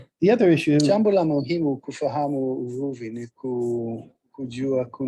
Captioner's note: Swahili voice over